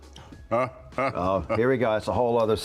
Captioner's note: mass laughing